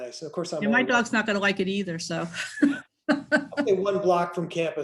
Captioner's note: laughs